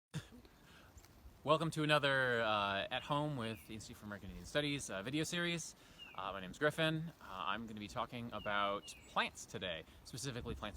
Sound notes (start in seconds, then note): 4.5 wind and birds in background